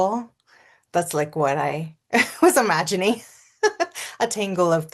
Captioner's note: laughs